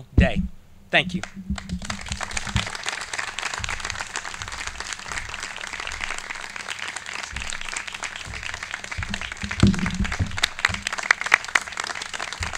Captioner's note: clapping